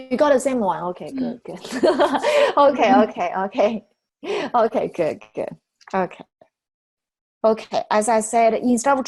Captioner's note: laughter